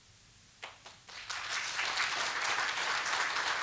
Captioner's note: applause